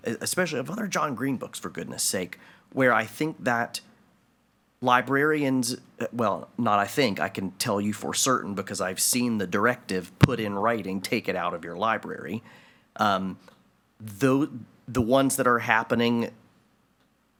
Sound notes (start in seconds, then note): none